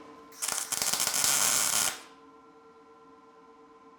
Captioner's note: metal sizzling